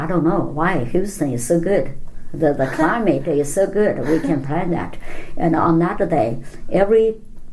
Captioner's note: laughs